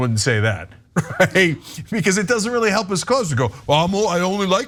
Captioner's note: laugh